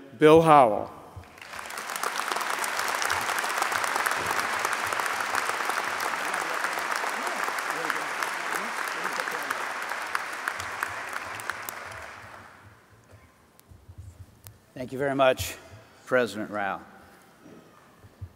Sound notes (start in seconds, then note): 7.5 applause